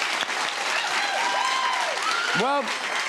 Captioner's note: cheers and applause